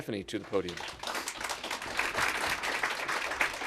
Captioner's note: applause